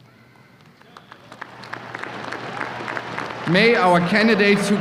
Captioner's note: applause